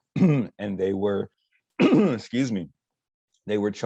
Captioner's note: coughs